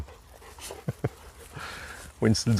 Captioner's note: laughing